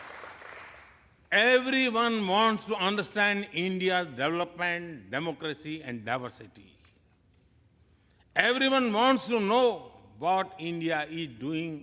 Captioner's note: applause